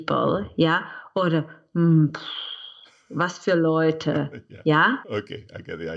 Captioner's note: scoffs; laughs